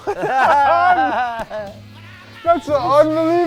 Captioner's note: laughs